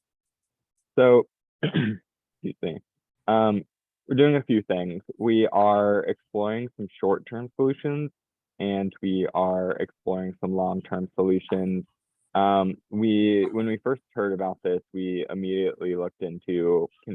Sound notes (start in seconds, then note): 1.6 clears throat